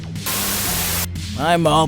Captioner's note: Static